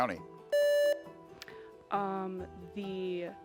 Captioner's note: buzzer beeps